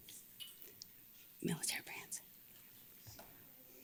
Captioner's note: whispers